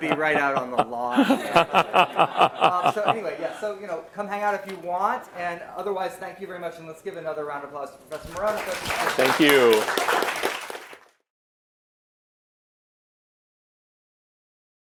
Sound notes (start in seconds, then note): 10.1 applause